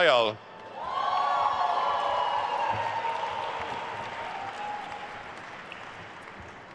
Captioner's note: attendees cheering and applauding